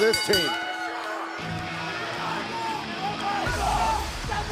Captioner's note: bell ringing